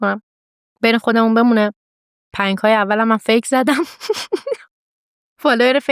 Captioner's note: laughs